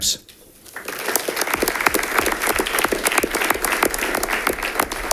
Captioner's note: audience applauding